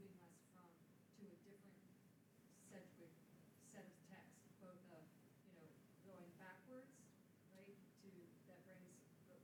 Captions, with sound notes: Sedgwick set of text, both of, you know, going backwards, right, to (speaking faintly).